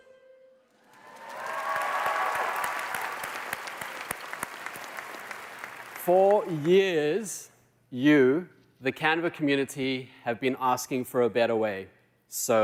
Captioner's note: applause